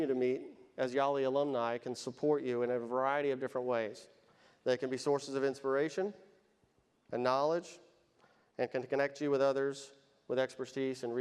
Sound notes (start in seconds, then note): none